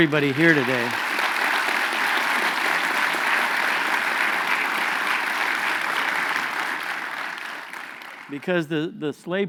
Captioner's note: applause